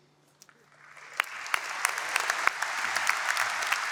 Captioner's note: applause